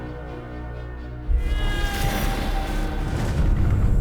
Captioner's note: voldemort screaming